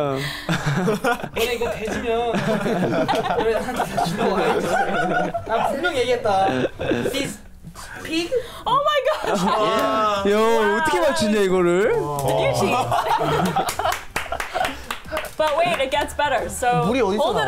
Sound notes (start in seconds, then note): 0.0 speaks in Korean; 2.2 laughs; 13.3 claps; 13.9 laughs